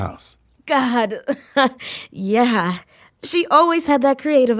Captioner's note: laughing